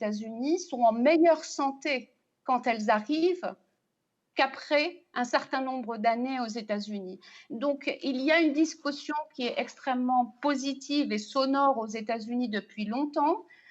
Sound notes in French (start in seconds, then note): 7.5 distorsion